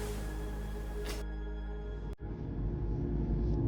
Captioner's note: lips smack